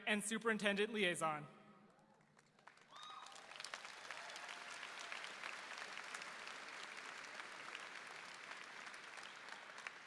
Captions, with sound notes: and Superintendent Liaison. (audience applauding)